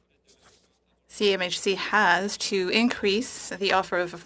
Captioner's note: speaking French